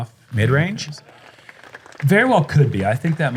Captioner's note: applause